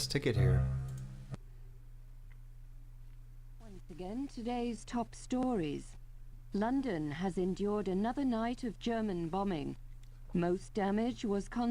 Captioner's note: radio